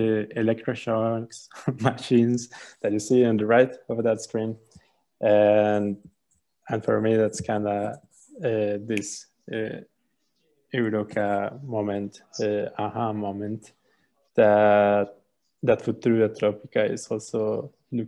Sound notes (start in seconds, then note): 8.8 finger snap